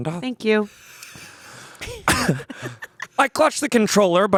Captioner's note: laughing